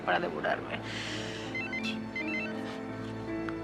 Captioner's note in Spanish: suena el celular